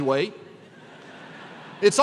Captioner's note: laughter